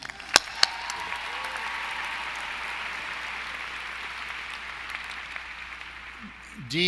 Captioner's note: applause